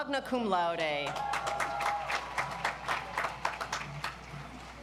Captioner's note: audience applauds